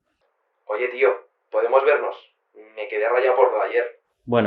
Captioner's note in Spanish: al teléfono